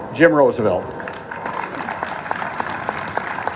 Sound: applause

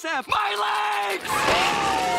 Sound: siren blaring

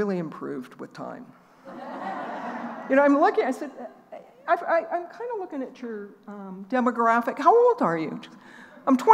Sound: laughing

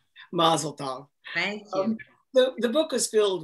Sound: laughs

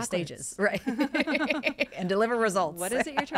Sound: both laugh

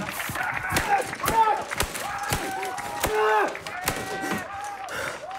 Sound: screaming; keyboard smashing; clapping over speakers

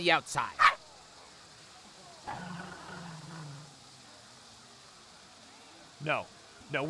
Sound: fox yips

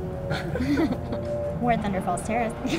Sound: both laughing

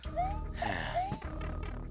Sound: sigh

